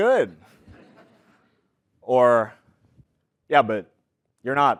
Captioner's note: laugh